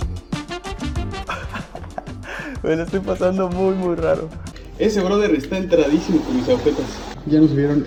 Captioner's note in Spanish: risas